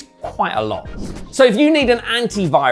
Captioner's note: transition whooshing